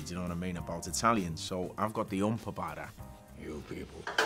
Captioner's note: foreign language